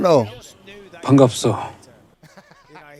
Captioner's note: speaking korean